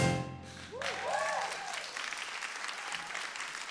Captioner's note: applause